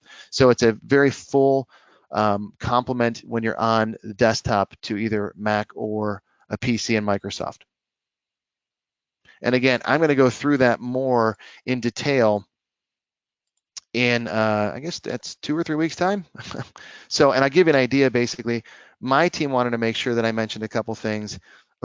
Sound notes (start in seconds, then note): 16.3 chuckles